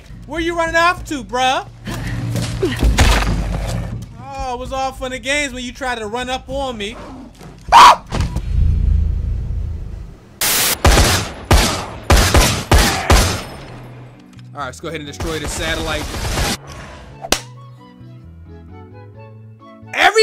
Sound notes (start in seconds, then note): 7.7 screams; 10.4 gun being fired